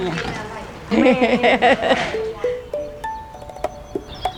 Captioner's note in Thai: เสียงหัวเราะ